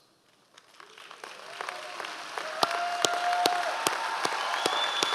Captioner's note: audience applause